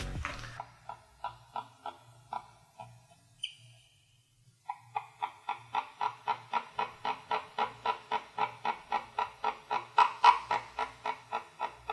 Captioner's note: gecko clucking